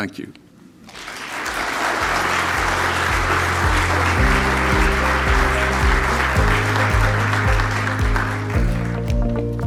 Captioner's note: applause